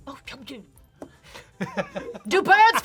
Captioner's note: scoffs; laughs